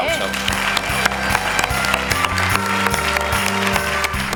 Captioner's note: applause